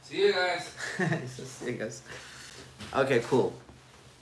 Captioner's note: laughs